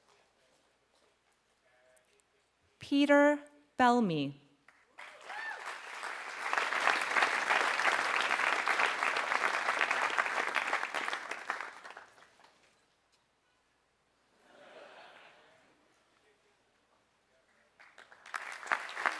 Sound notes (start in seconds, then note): 4.6 applause; 14.8 laugh; 17.5 applause